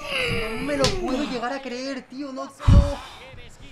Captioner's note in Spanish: resopla